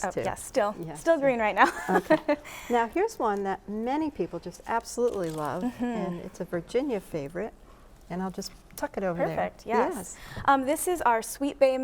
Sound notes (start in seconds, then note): 1.6 chuckles